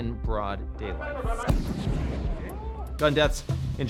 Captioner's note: gunshot booms